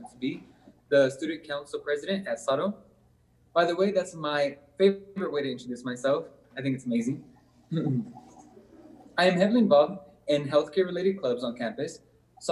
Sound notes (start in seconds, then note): 7.6 clears throat